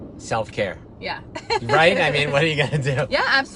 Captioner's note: laughs